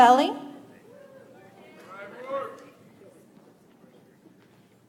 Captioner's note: audience applauds